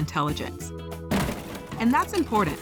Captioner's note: loud smash